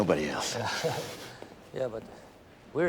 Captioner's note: person laughing